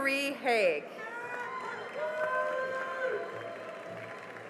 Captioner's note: cheering and applause